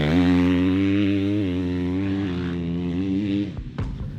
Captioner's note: engine roaring